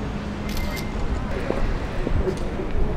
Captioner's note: camera snaps